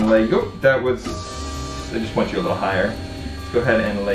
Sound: chair whirring

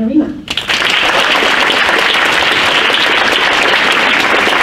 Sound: crowd applauds

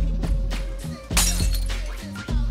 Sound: bottle smashing

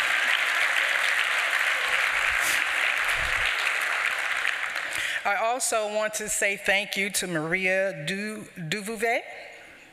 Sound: applause

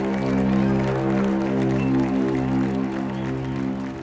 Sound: applause

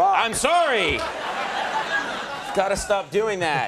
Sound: audience laughing

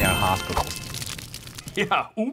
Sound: fire crackling

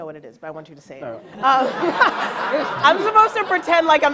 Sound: laughs

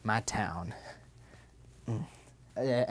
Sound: grunt

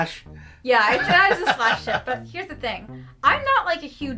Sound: laughs

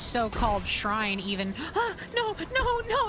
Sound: gasp

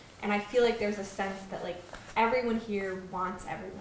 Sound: none

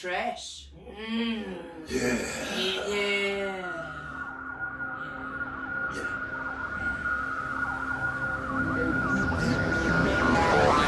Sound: murmurs of agreement

